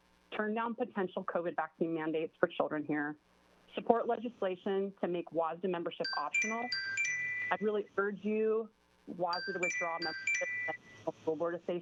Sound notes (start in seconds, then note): 6.0 chime